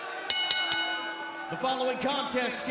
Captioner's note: crowd chatter; bell ringing